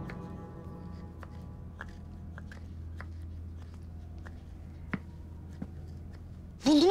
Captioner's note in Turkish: Taş Havanda Dövme Sesleri